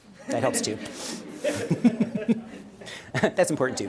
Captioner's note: audience laughing